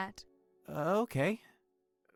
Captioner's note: hesitant